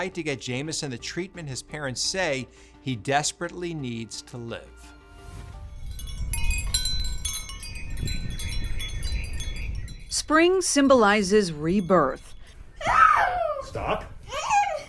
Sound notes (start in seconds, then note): 5.2 wind chime tinkling; 12.8 crying